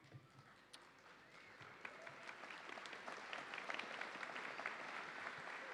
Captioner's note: audience applauding